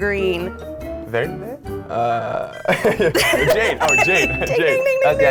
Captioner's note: laughing